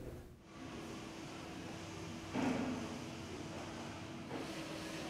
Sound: machinery sounds

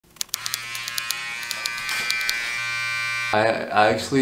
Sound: trimmers buzzing

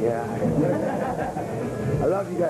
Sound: laughter

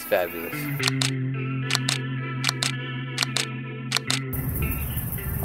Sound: camera clicking

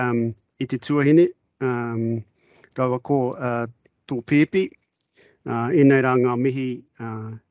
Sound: speaking in te reo Māori

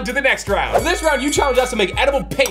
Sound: bell dings

